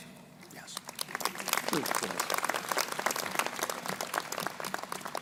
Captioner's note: crowd applauding